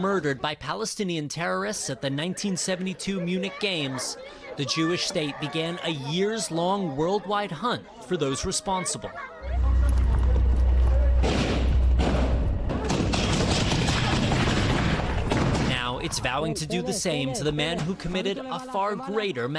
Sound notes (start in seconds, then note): 16.2 sound of gunfire